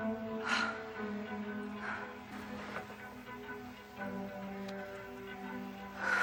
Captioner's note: Marlee gasping over quietly tense electronic music